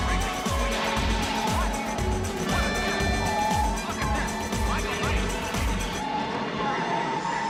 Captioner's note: screeching Tyres